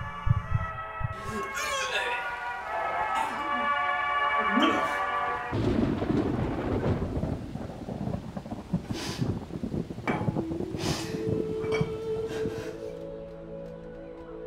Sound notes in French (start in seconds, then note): 0.0 cœur battant sur la musique; 5.4 tonnerre; 11.3 musique de cornemuse douce